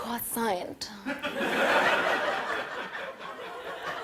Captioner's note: laughter